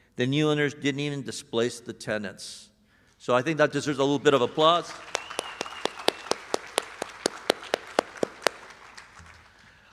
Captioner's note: applause